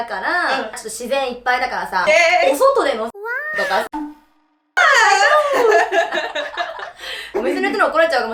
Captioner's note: laughs